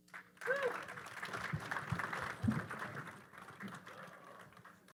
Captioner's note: audience applauding